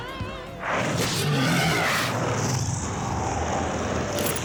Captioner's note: roars